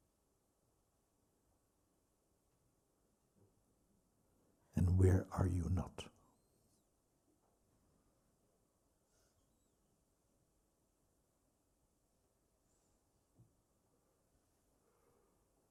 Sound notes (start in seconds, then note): 8.5 silence